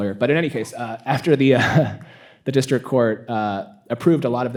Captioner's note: chuckles